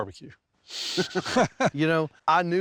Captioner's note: both chuckle